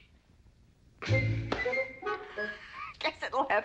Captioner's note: giggling